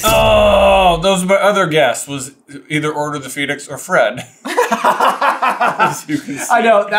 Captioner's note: laughter